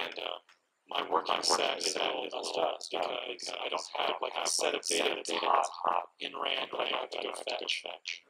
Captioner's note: echo in the background